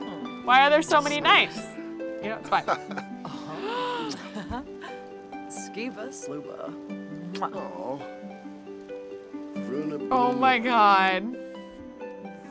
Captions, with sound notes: Why are there so many knights? It's fine. (gasps) (speaks Simlish) Oh my God.